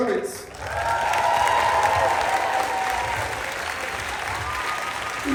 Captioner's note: applause, Cheering